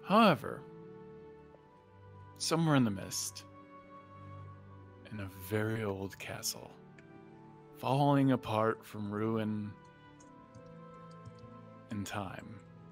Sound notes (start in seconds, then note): none